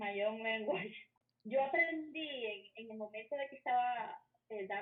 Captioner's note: foreign language